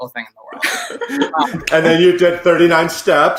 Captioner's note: all laughing